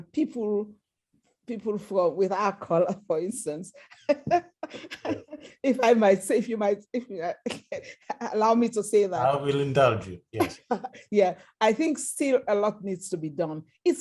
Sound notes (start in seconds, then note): 4.0 laughter